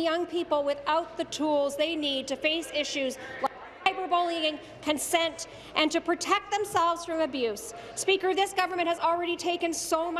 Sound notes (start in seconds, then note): none